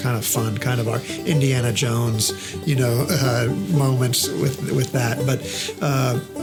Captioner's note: chuckles